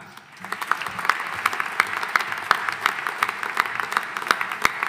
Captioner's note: audience applauding